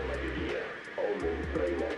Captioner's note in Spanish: Estática